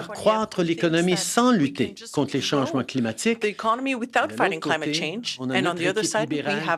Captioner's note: speaking French